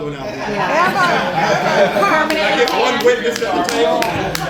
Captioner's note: laughter